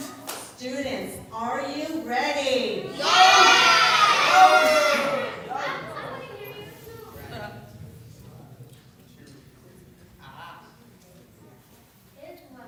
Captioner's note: cheers